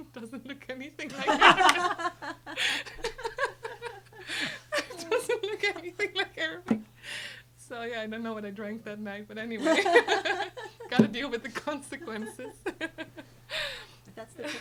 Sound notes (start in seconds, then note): 1.0 group laughing; 9.6 group laughing; 13.7 laughs